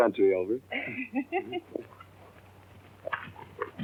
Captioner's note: laugh